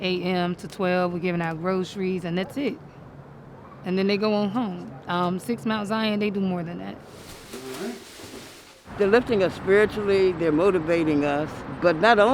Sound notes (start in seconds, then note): 7.0 bag rustling